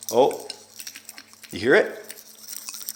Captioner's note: rattling